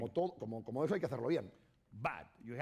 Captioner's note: speaking spanish